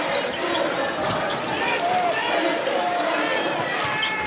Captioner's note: cheering